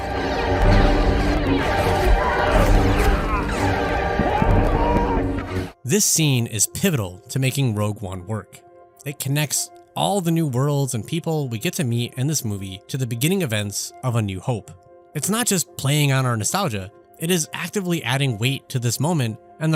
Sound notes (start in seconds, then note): 0.7 laser blasts; 3.7 man, screaming